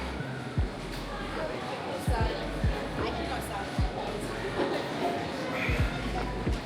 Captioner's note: children chattering